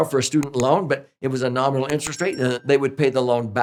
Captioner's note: bell chimes